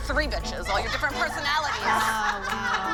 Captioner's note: laughter